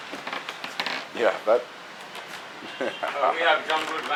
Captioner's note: laughing